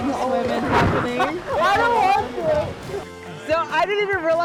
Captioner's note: laughs